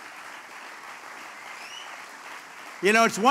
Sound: applause

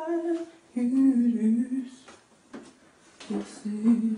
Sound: humming

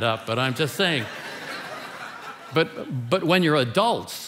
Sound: congregation laughing

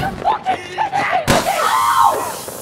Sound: screaming; punch

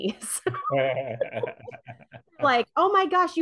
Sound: laughing

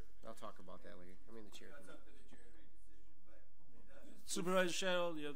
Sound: overlapping chattering

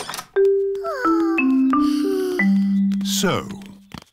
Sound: peppa and george sigh

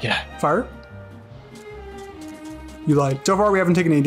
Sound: sounds of bullets not blanking

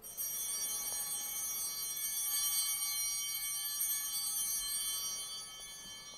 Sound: bell ringing

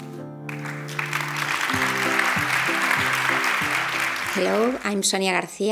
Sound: applause

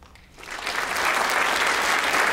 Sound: applause

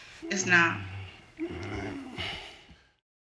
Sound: groaning

